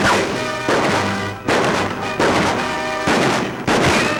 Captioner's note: gun shots